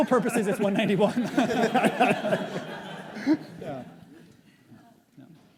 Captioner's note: audience laughs